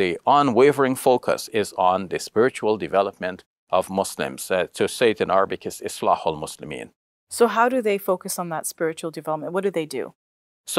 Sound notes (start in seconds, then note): 5.6 speaks in Arabic